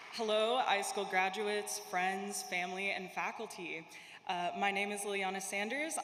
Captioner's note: applause